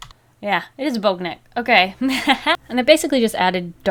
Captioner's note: laughs